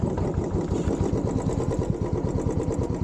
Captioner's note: bike engine